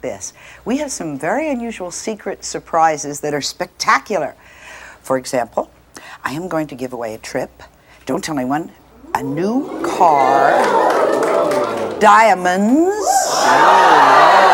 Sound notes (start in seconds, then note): 8.9 audience oo's; 12.1 audience ah's